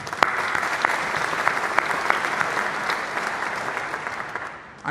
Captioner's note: applause